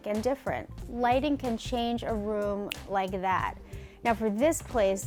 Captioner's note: snaps fingers